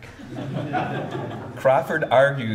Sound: audience laughs

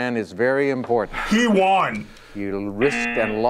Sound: buzzer

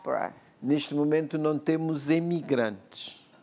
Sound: speaking portuguese

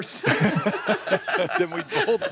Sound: laughter

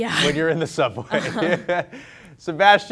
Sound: laughs

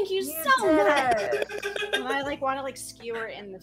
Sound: laughter

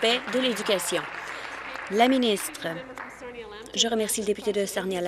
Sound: applause

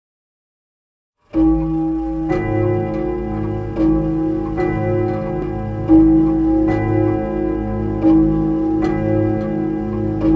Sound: sound of clock

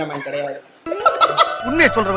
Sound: laughs

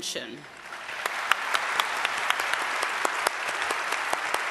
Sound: audience applause

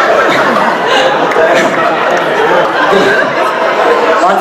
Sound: audience laughing

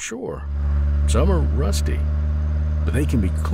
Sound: car engine roaring

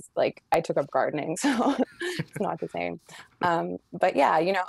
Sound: laughing

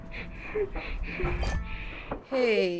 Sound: viewer breathing heavily, game pauses

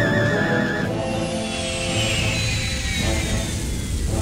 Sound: engine slows

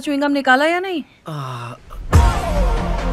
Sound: sighs

